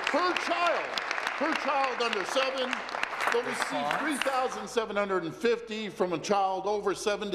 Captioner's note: applause